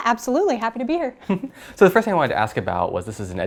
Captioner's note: laugh